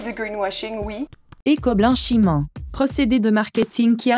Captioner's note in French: voix robotique